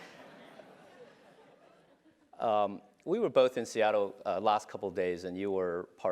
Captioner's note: laugh